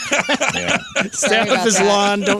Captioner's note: laughing